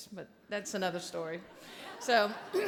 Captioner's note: audience laughing